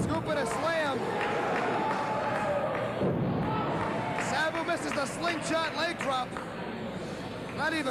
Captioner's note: fans chanting